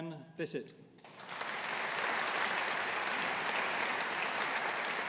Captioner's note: audience applauding